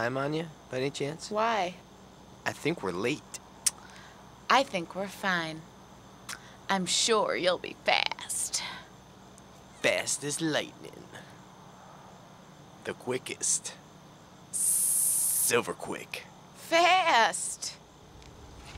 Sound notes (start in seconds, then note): 4.5 tsk